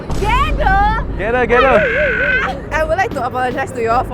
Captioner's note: crow noises